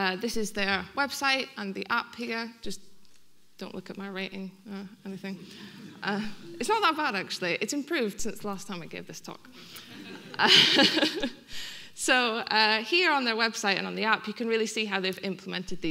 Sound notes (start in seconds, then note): 5.4 audience laughing; 9.6 audience laughing; 9.6 laughing